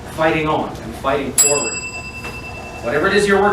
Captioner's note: bell dings